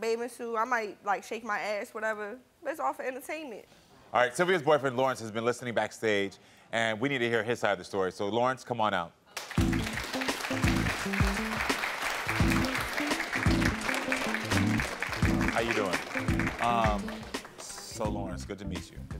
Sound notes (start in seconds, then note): 9.3 audience applauds; 9.5 upbeat music